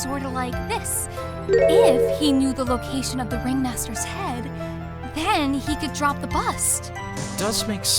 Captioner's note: whispering